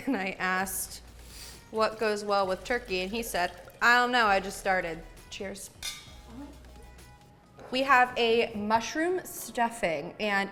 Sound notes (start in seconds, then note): 5.8 glasses clink